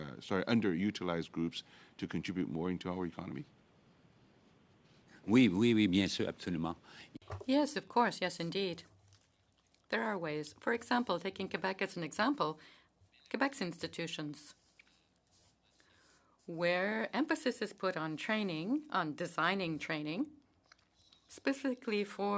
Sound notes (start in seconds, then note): 9.6 speaking French